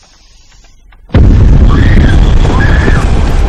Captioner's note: tim screaming